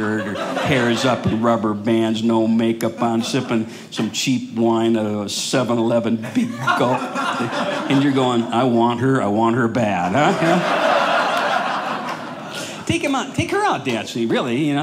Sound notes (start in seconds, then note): 10.1 audience laughing